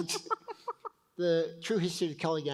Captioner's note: both laugh